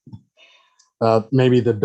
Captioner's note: laughs